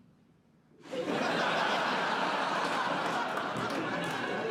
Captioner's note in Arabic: ضحك